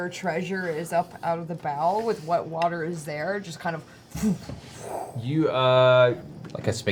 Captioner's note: whoof